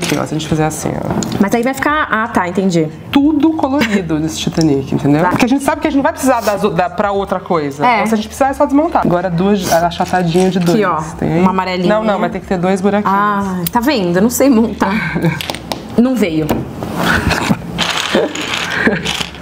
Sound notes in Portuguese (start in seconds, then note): 18.6 risos